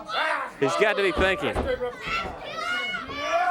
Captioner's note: crowd chatter